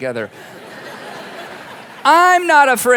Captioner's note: congregation laughing